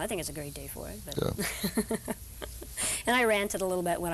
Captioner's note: laughing